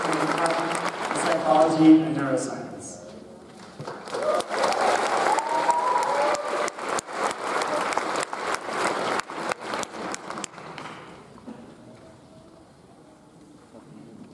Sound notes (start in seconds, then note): 3.6 audience applauds; 4.0 audience cheers